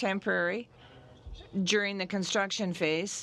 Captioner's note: speaking French